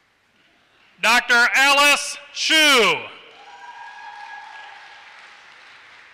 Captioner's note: applause